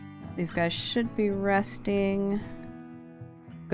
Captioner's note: none